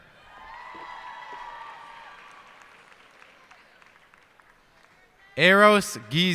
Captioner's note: cheers and applause